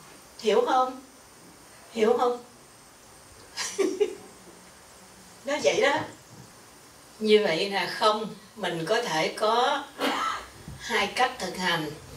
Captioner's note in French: rires